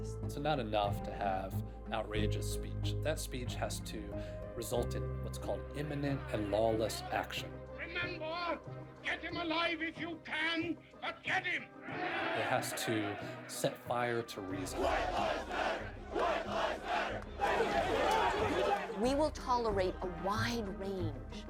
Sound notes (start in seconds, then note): 11.8 crowd cheering; 14.1 chanting; 17.1 all clamoring